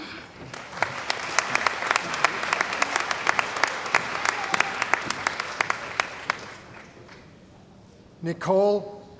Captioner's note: applause